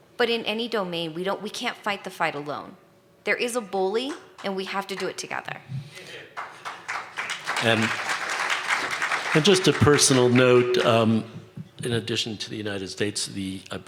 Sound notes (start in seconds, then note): 6.3 applause